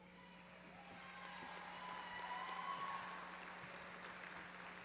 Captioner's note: applause